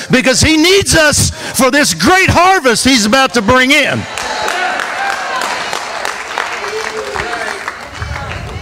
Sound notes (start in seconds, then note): 3.2 congregation applause